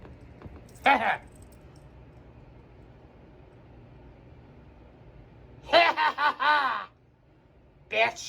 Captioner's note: laughs